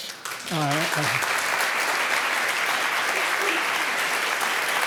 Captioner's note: applause